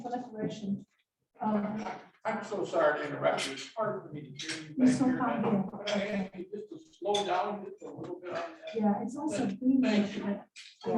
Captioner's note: chatter while addressing microphone situation